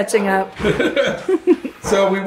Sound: parents laughing

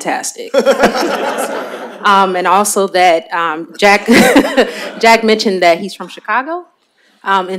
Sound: laughter

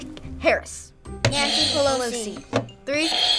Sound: buzzer rings

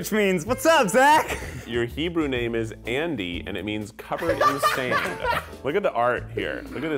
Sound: laughs

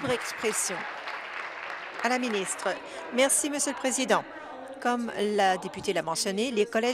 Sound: applause

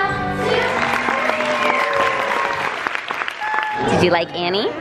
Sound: applause, cheering

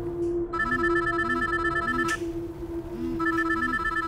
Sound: phone ringing

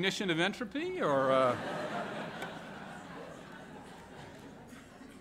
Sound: laughter

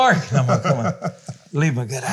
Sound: both laugh

